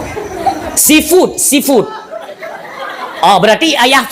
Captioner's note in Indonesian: tertawa